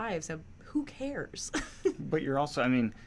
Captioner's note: laughs